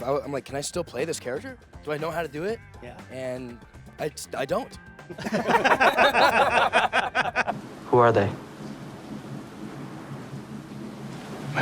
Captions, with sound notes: I'm like, can I still play this character? Do I know how to do it? Yeah. And I don't. [LAUGHING] Who are they?